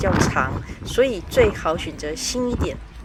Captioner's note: strong wind